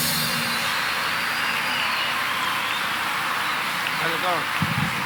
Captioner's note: audience cheering; audience applauding